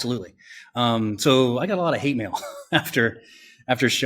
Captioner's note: laughs